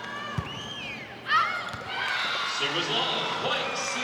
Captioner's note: ball thumping